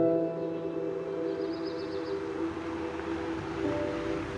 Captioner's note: car rumbles